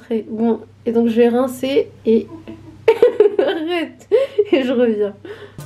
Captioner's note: laughs